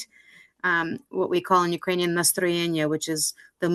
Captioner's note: speaking Ukrainian